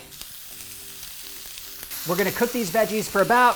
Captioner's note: vegetables sizzle